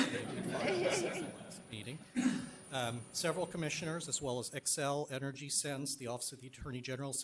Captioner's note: laughter; clears throat